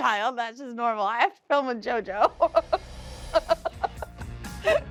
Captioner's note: laughs